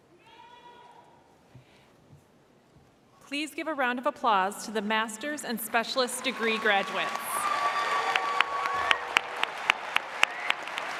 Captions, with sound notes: - Please give a round of applause to the master's and specialist degree graduates. (audience applauds)